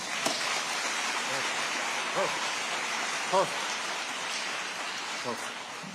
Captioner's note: audience applauding